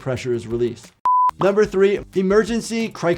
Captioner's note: beep